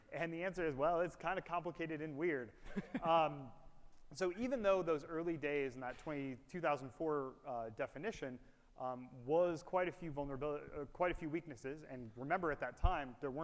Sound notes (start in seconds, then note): 2.7 laughs